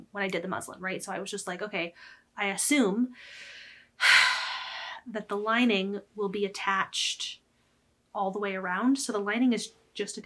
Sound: sigh

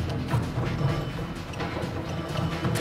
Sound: doorbell rings

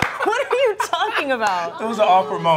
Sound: laughing; laughs

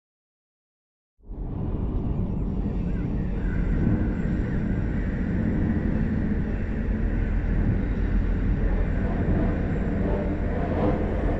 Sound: sound of dark scrape

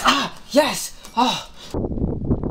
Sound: sigh

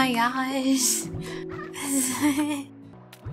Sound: laughter

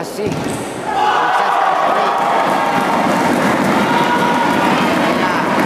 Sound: applause

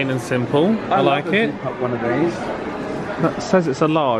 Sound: mutters

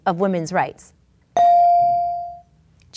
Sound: ding

